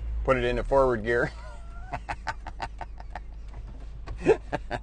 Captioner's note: laughs